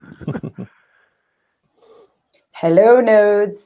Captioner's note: chuckling